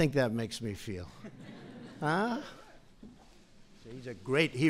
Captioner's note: laughter